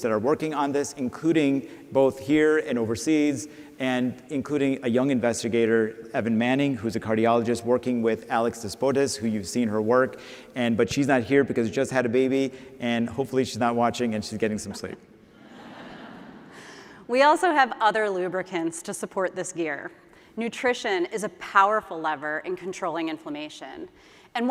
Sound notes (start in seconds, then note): 15.4 laughter